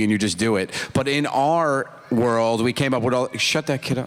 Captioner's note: child crying